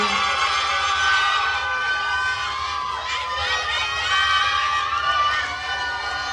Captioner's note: attendees cheering and applauding